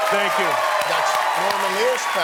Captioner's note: applause